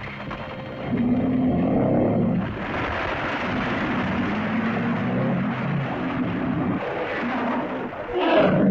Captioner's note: rocks rumbling; tense music; rocks rumbling; lizard moans; lizard cries out; rocks rumbling; tense music